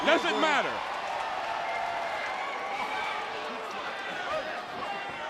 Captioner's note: crowd cheering